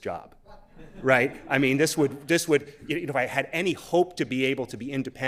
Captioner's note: laughter